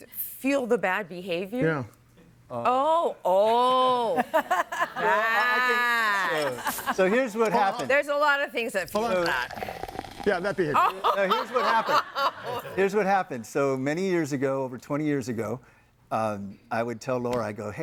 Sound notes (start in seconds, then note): 8.9 liquid burbling